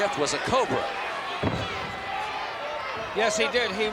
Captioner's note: foot stomping